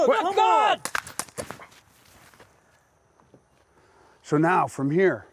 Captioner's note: shouting; gun shot